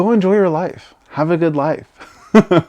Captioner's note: laughs